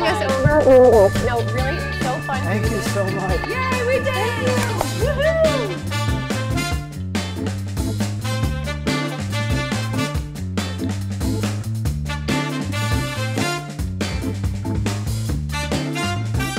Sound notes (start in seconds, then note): 3.1 cheering; 4.8 upbeat music